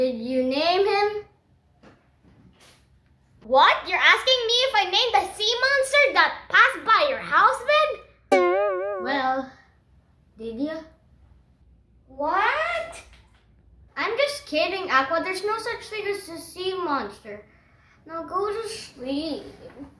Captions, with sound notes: - Did you name him? (sarcastic remark) - What!? You are asking me if I named the sea monster that passed by your house bed? - Well, did you? - What? - I'm just kidding Aqua, There's no such thing as a sea monster. Now, go to sleep.